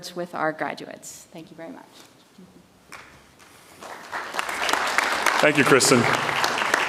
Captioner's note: audience applauds